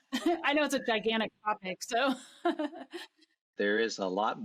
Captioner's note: laughs